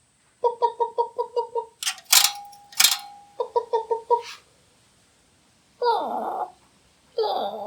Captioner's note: chicken Clucking; Sad Chook Sound